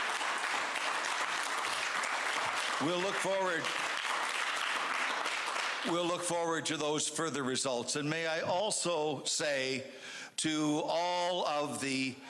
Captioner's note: applause